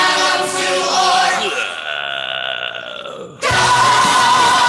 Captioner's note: person growls